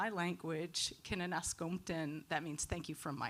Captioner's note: speaking in foreign language